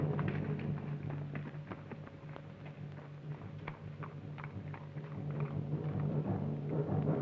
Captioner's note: none